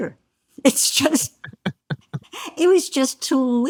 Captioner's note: laugh